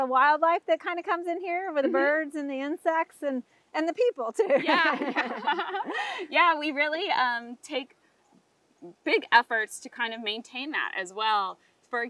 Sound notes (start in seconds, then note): 4.6 both laughing